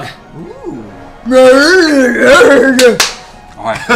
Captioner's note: grunting affirmatively